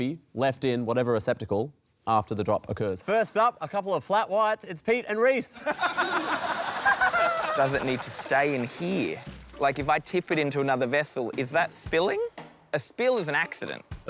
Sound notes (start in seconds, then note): 5.5 laughter